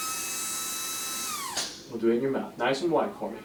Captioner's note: brush whirring